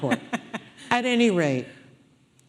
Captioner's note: audience laughing